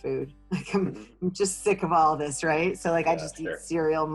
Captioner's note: laughing